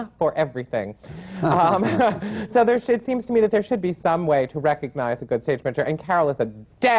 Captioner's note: laughter